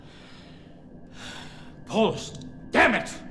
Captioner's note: sighs